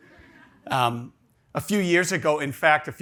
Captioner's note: audience laughs